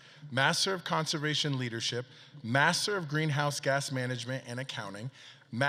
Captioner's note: none